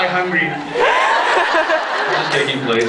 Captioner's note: laughs